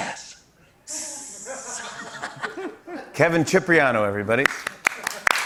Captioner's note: imitates sizzling, laughs; applause